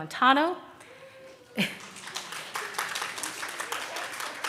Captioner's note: audience claps